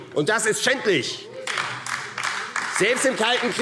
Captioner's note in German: Beifall AfD